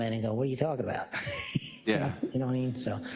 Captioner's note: laugh